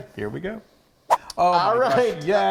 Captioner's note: whizzing noise